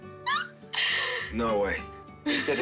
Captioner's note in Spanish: Exclamaciones